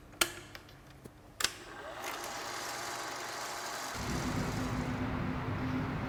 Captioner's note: projector clicks; projector whirring; distant traffic humming